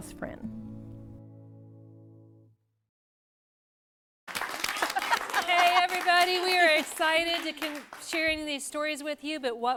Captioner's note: �applause�